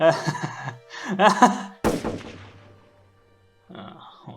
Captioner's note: shots fired